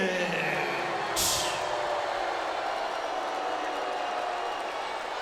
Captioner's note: audience booing